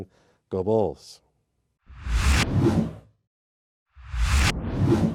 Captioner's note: text swooshes